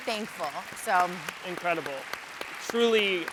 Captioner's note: audience applauds